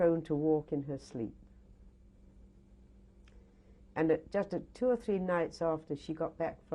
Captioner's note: pauses for 3 seconds